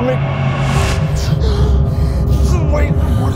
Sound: pulsing noises

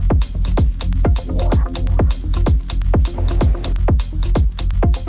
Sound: water dripping

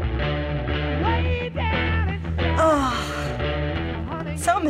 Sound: nostalgic sigh

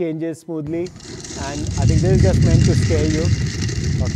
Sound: feet clatter

